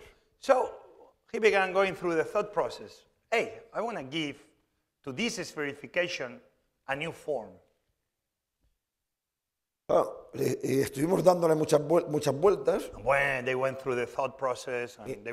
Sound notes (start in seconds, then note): 11.4 speaking spanish